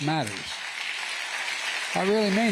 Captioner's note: applause